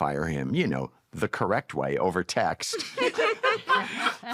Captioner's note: laughter